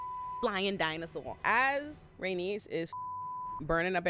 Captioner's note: beep; beep